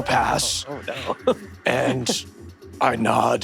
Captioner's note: laughs